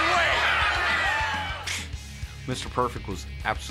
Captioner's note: applause